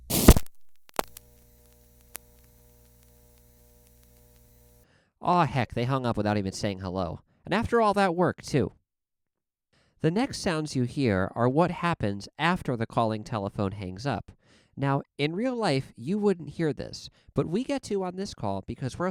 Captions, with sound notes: [ksssh, thhip, pop] [faint buzzing comes back] Aw heck, they hung up without even saying hello, and after all that work, too. The next sounds you hear are what happens after the calling telephone hangs up. Now, in real life, you wouldn't hear this, but we get to on this call, because we're